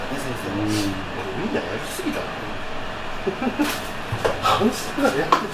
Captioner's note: laughs